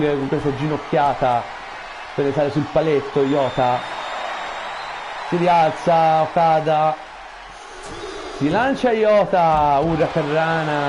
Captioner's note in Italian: Applauso